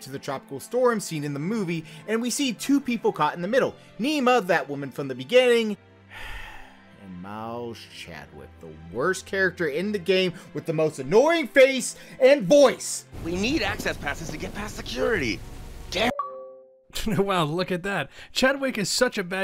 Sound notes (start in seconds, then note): 6.1 sigh